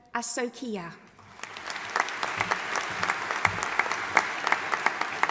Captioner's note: audience applauding